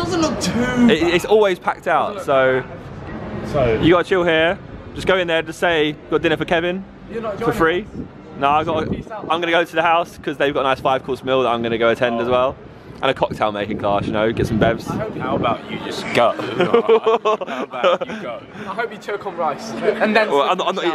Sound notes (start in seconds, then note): 16.2 laughing